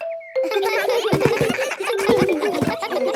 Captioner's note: giggles